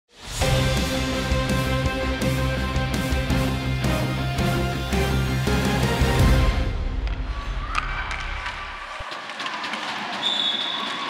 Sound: crowd Chatter

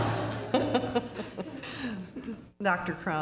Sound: laughter

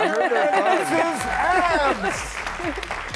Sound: audience applauds

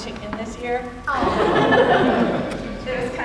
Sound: laughter

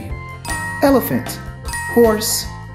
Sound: bell dinging

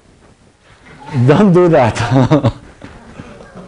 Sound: laughter

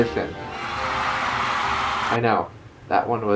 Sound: applause

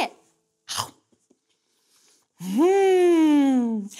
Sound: chomps

